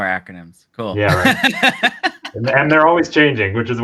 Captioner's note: laughs